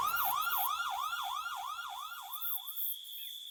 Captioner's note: crickets chirp